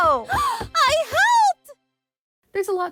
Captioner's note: gasp